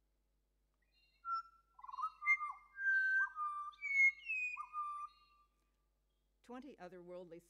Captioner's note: birdsong plays